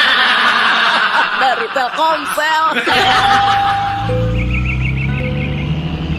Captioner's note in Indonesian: tertawa